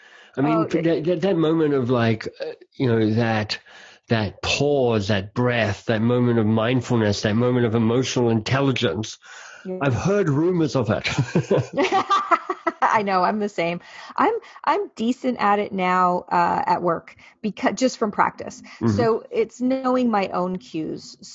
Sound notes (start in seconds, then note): 10.9 laughing